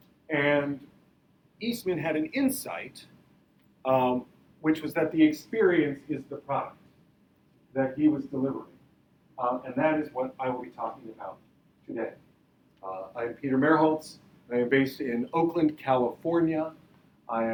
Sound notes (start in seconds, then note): none